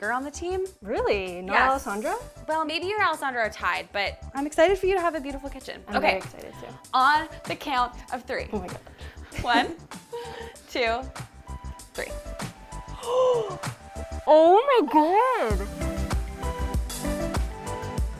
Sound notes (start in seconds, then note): 12.9 gasping; 15.4 upbeat music